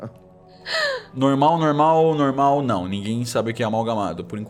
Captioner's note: laughs